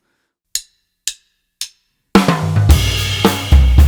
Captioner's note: sticks tapping; drums banging